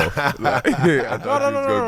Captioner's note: laughing